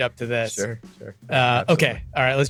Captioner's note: laughs